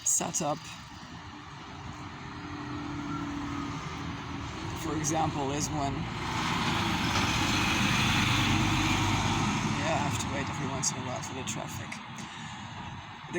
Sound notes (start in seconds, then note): 5.8 traffic noise